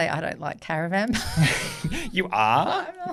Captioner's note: laughs